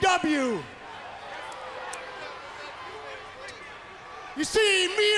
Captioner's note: crowd chatter